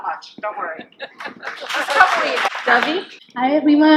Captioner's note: laughter and clapping